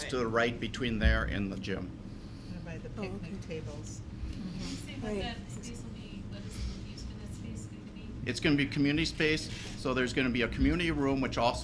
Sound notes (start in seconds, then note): 3.2 chattering